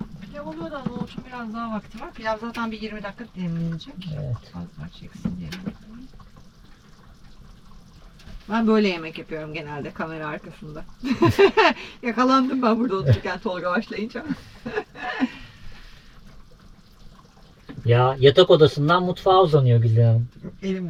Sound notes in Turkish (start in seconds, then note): 16.2 kahkaha